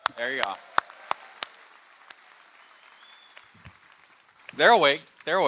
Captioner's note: applause